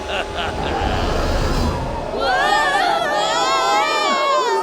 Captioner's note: evil laughter; wing howling